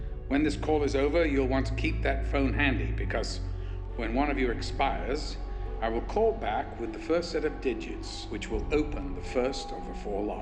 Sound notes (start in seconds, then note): none